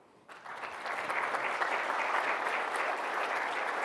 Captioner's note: applause